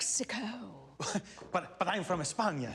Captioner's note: chuckles